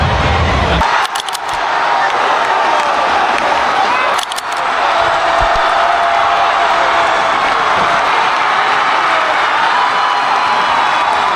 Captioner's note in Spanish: ovación